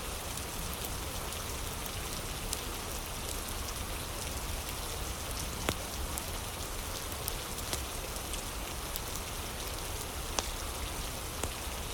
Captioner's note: fire crackling